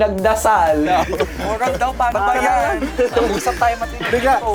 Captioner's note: bong